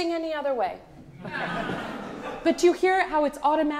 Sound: audience laughs

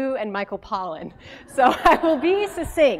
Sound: laugh

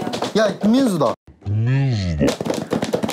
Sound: crash

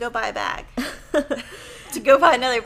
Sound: laughing

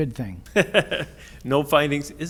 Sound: laughs

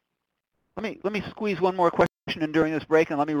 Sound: voiceover

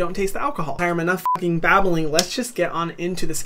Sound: beep

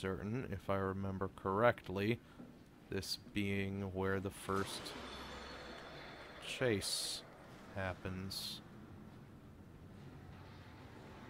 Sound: loud clattering

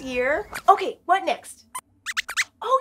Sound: squeak

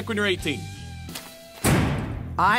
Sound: door shuts loudly

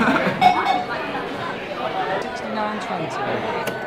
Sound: laughs; diners chatting

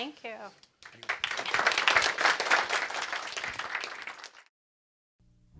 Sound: audience clapping

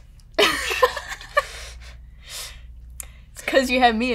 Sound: laughter

